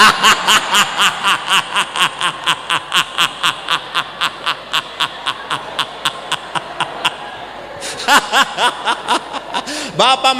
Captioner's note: laughs